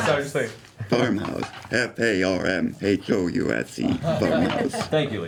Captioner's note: speak-and-spell voice